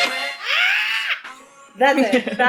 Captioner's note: inhuman shriek